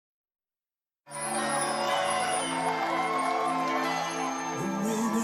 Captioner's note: cheering